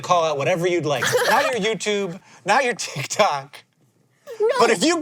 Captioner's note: laughs